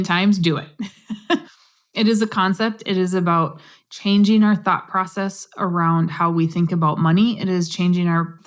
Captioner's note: laugh